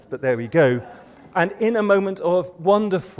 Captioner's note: laughter